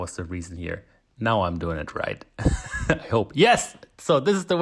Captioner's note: laughs